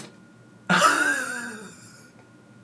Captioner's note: laughing